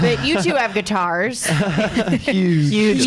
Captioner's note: laughs